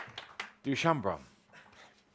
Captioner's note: applause